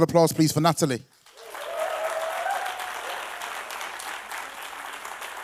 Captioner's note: audience applause